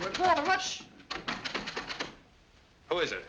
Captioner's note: doorknob rattling